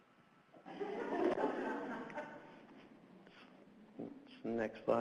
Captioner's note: audience laughs